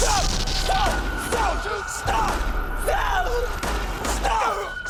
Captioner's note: gun shots